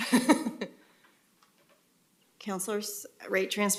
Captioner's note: laughter